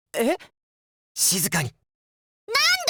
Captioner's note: whisper